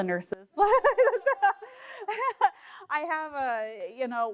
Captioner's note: group laughing; laughing